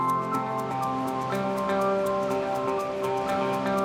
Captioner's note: water rushing